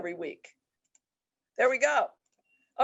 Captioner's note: mouse clicks